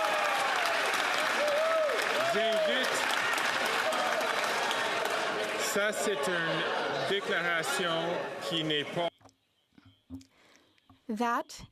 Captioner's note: some Applause